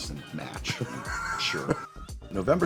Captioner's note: laughs